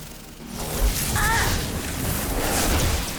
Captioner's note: magical buzzing